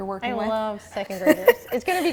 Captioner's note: laughs